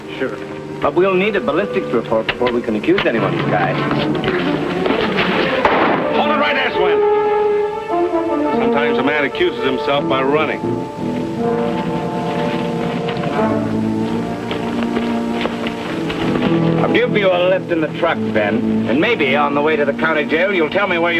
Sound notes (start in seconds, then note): 4.7 tense orchestral music; 5.4 gunfire pops; 13.4 tense orchestral music